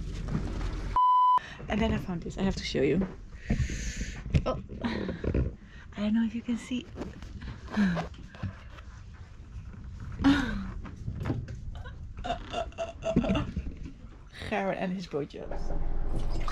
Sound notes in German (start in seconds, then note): 7.4 lacht